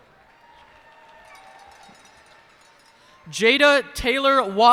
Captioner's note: cheers and applause